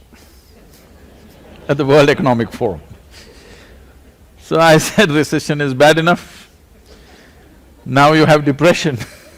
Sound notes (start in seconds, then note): 0.2 laughter; 6.6 laughs; 8.8 laughter